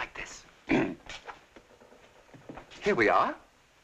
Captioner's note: clears throat